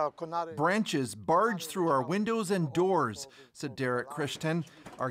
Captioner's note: speaking alternate language